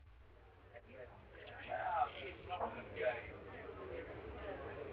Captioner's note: all chattering